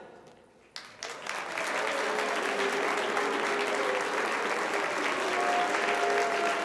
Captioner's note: members applauding; members booing